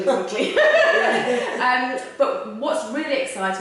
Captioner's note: laughter